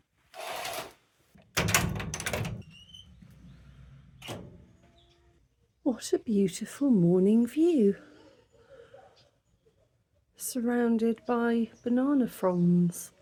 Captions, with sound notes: [curtain swishing] [door unlocking] What a beautiful morning view. Surrounded by banana fronds.